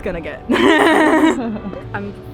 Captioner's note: speaker laughs